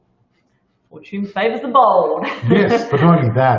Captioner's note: laughs